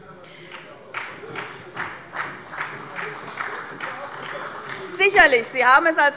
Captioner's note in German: Beifall bei Abgeordneten der SPD und des BÜNDNISSES 90/DIE GRÜNEN